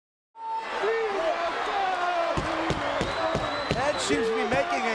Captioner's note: crowd chattering